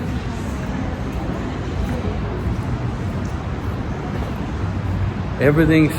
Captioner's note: street noise